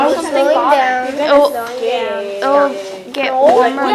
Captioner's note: chatter